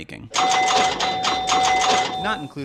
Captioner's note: pinball machine bells